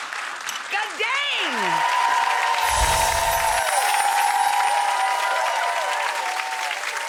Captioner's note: audience applause; audience applause